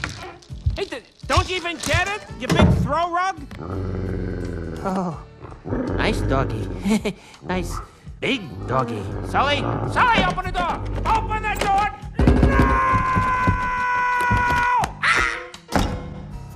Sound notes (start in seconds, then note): 3.5 dog growls; 6.8 chuckles